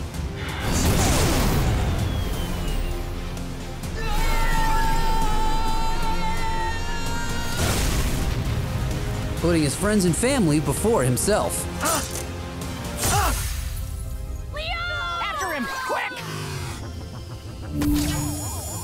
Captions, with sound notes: [screaming] Putting his friends and family before himself. [grunting] - Leo! - After him! Quick!